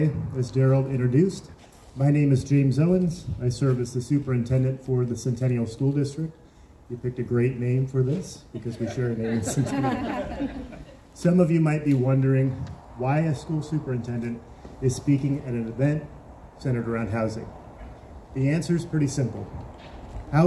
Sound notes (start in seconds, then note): 8.5 crowd chuckles